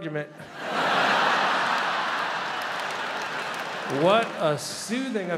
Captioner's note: crowd laughs